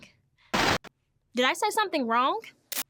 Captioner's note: screen crackling